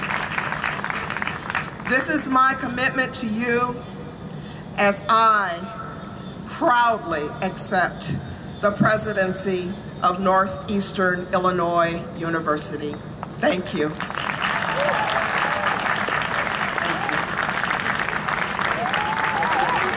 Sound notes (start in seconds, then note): 0.0 applause and cheering; 13.9 applause and cheering